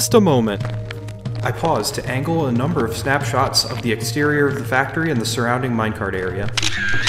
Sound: footsteps on gravel; camera shutter closing

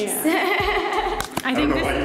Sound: laughs

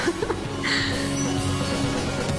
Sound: watson giggles

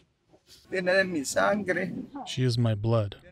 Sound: speaking Spanish

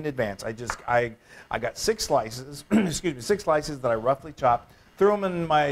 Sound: cough

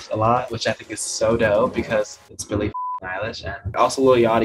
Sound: beep

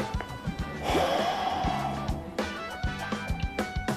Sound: sighing

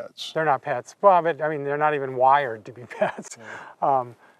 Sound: laughs

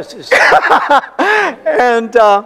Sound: laughter

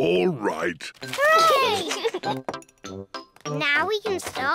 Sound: giggles

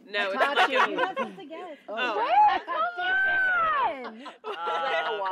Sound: chatter from group

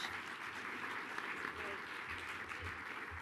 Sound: applause

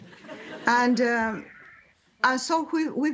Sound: laughter

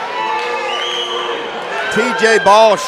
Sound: crowd booing

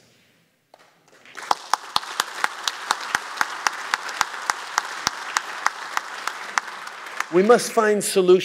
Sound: applause

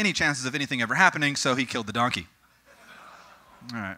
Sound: audience: Sympathetic laughter

